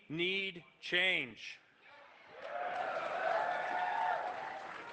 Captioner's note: cheering, applause